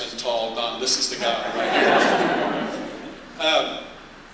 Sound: laughter

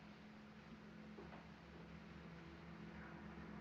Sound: vehicle approaching

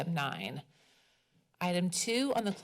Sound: pause

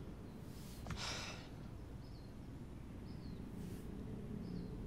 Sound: Andrew exhales

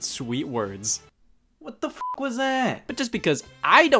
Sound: beep

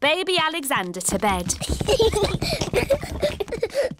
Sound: children giggling

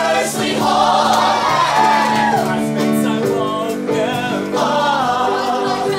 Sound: aww!

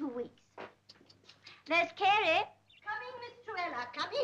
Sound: tuts

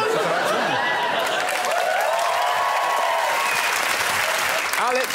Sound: laughter; applause

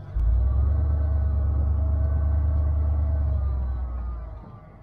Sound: engine roars

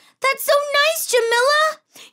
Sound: none

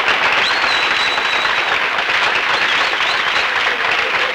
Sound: audience applauding

